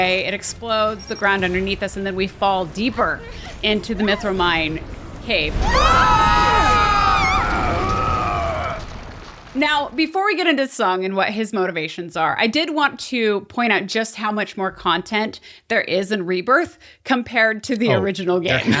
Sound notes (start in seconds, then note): 5.5 screams